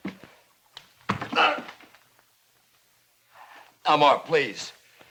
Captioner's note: groans